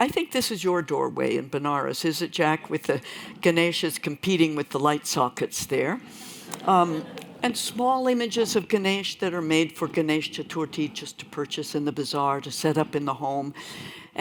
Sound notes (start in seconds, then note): 6.4 laughter